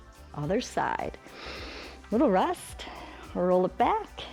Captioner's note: inhales